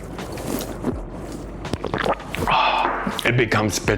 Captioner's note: liquid slurping